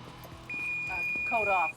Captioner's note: beeping